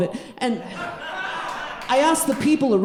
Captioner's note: audience laughing